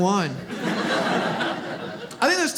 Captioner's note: audience laughs